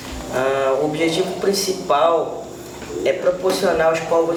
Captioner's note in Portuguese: rumor abafado de vozes na escola